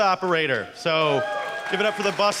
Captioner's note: applause